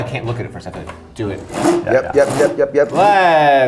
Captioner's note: wheel cranking